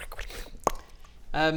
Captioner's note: pop!